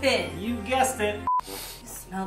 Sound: sniffing

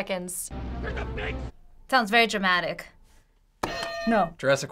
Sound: man yelling; hitting bell; buzzer

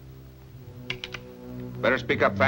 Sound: gun cocking

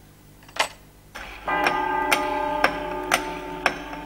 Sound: clock chiming and ticking

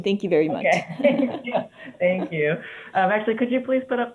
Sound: chuckles

